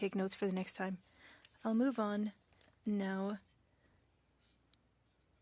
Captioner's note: speaking French